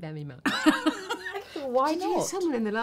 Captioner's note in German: lachen